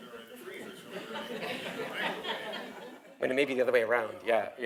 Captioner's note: laugh